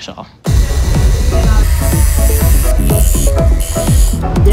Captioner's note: tools grinding